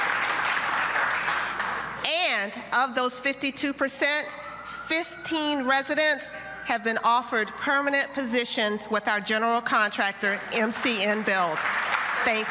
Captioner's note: cheers and applause